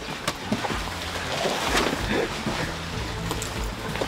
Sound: water splashing

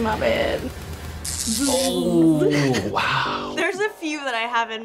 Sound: electricity crackles

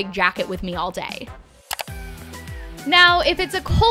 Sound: computer mouse click

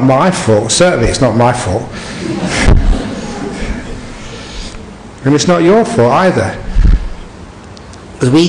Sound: laughter

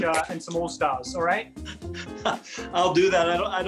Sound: laughing

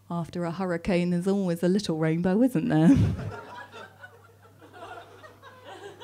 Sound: laughs

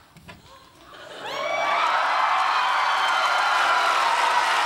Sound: audience cheering

